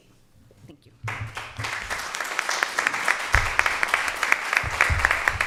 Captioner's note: audience applause